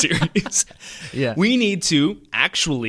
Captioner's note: both laugh